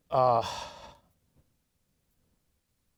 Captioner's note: annoyed sigh